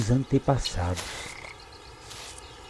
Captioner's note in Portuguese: Sapo coaxando